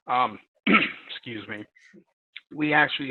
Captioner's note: clears throat